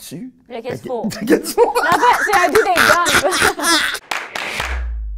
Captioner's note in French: rires